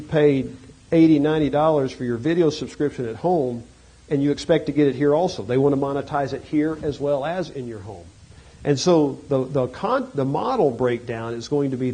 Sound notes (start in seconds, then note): none